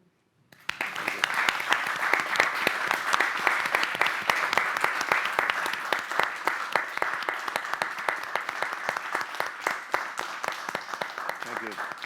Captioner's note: applause